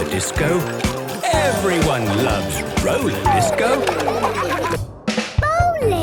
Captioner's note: laughter